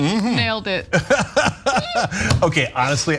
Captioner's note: laugh